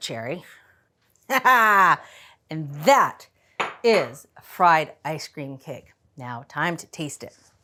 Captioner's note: laughs